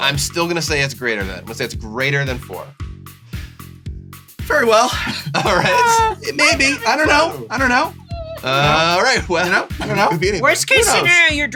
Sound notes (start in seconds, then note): 4.8 laughing; 6.1 high pitched voice